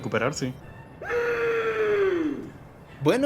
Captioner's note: screams in pain